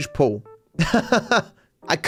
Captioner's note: laughs